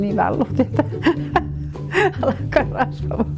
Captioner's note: laughing